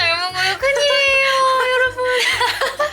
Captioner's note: sob TT